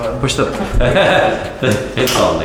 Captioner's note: laughs